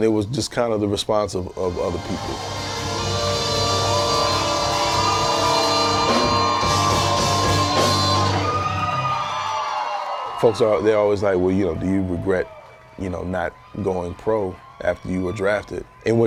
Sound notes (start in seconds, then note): 5.8 audience cheering